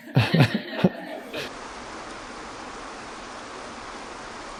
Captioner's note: laughs; water splashing